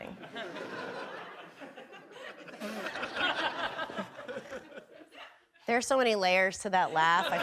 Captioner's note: audience laughing